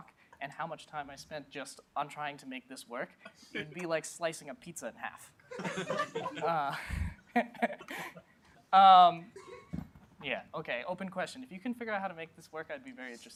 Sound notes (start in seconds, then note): 5.5 laughter